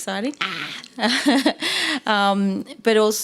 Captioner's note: laughs